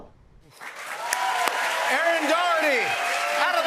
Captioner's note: cheers and applause